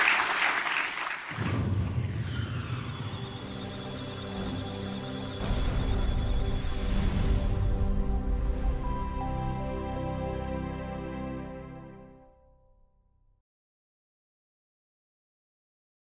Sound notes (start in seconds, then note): 2.9 electronic sounds of data; 2.9 musical tones